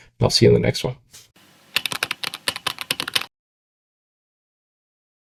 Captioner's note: typing